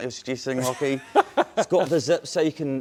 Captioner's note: laughs